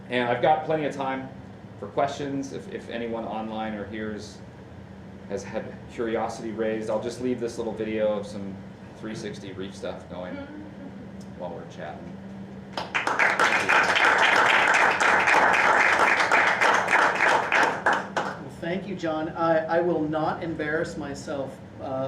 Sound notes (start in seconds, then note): 12.7 applause